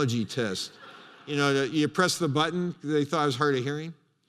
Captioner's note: laughter